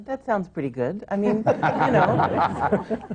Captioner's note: laughter